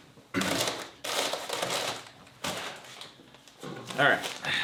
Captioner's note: packaging rustling